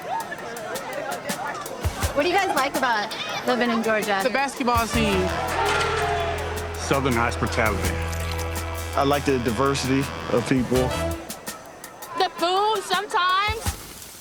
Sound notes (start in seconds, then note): 0.1 indistinct chattering; 5.8 cheering